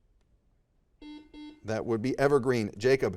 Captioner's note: buzzer dings